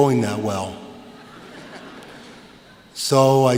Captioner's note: laughter